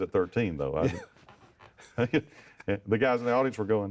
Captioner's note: chuckling